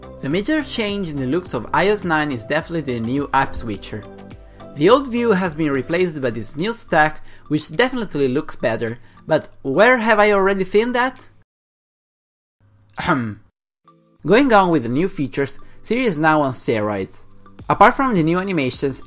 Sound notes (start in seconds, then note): 13.0 cough